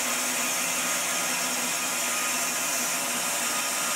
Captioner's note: saw whirring